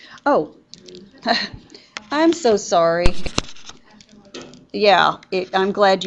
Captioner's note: chuckles